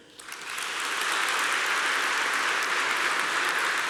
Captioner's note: applause